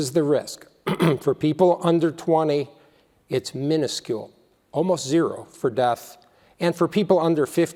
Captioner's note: cough